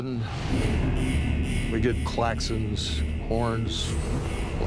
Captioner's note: klaxons blaring